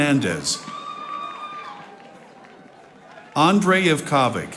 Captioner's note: audience applauding